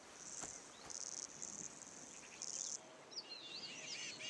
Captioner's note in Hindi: चहचहाहट